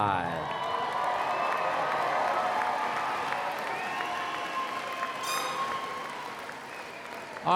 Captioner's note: applause